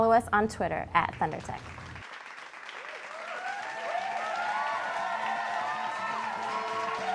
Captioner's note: applause